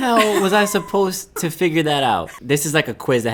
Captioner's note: laughing